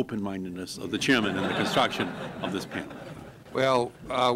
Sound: laughter

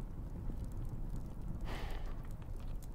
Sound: sighs

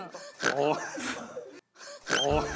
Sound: oink; cracking up

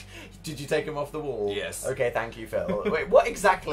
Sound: laughs

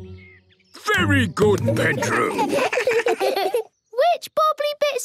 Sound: children giggle

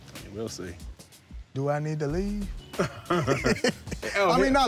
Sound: both laugh

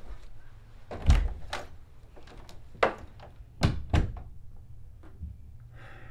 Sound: door closes

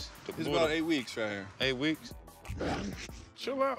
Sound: dog snorts

